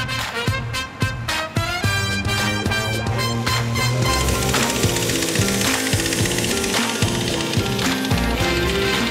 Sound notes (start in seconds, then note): 4.1 field-striping machine engine humming